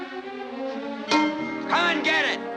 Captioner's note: clanging